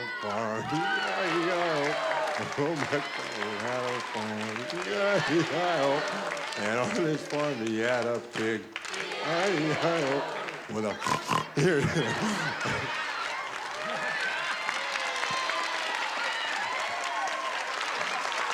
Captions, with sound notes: E-I-E-I-O. And old MacDonald had a farm, E-I-E-I-O. And on this farm, he had a pig, E-I-E-I-O. With a [OINKING] here, and a-- [LAUGHTER] [CHEERING]